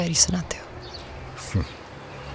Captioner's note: chuckles